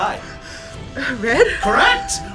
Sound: panting; electronic bell chimes

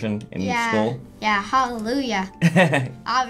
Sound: chuckles

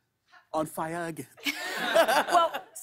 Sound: laughter

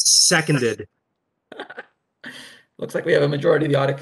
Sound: laughs

